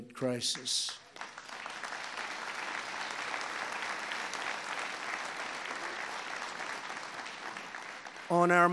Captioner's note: applause